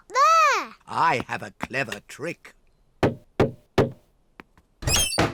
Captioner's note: knocks